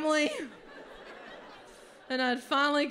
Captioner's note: audience laughs